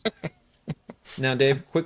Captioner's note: laughing